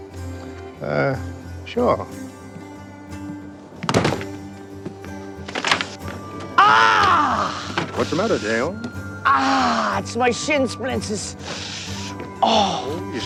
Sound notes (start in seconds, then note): 8.6 hissing